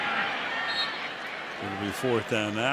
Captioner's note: whistle blows